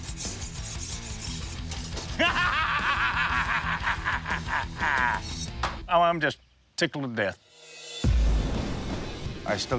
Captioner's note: laughs